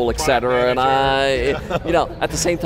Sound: laughter

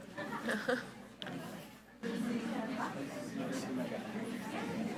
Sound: laughs; group chattering

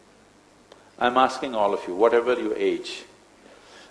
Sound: none

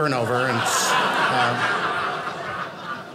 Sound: audience laughing

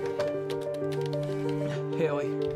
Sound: keyboard clacking; phone buzzing

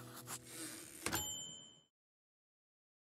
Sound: typewriter dings

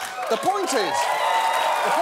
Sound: audience cheering

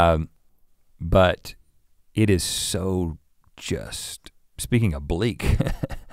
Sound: chuckles

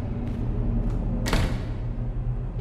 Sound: silent clank of door closing

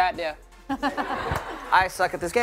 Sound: laughter

